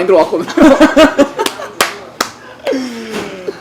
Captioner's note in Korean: 웃음